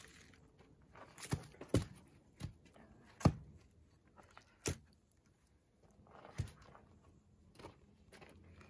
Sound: sound of logs hitting the ground

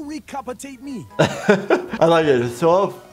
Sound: laughing

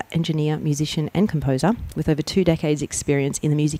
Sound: none

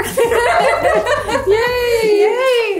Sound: they laugh

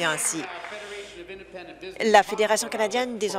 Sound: applause

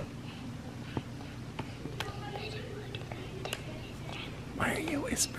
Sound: child whispers

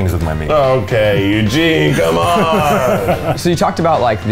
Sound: laughing

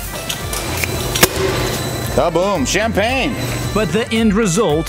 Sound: sound: Beer canning machine starts; sound: Pressurized air line releases

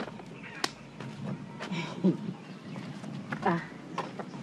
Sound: chuckles

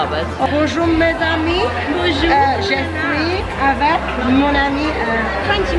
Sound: speaks foreign language

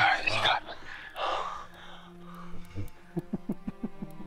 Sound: Scott laughs

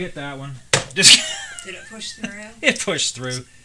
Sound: laughing

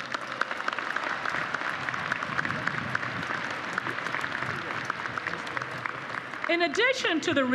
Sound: applause

